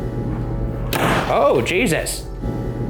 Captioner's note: door slamming